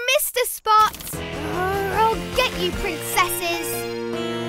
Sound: growls

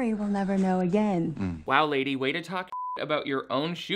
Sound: beep

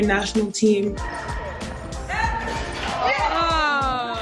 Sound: shouting

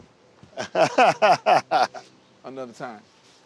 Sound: laughs

